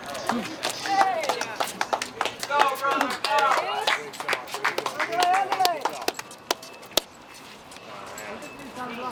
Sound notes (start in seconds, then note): 0.0 loud claps; 3.9 loud clapping; 5.6 group chatters